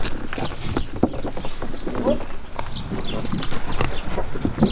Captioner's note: birds chirping